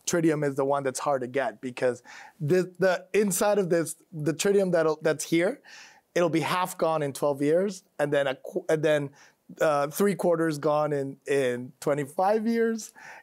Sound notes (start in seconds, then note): none